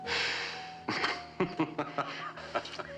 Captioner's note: chuckling